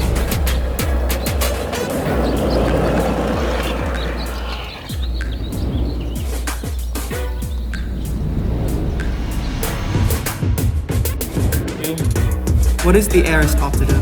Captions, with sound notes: (skateboard rolling) (upbeat music) - What is the aristoptitive of empensato?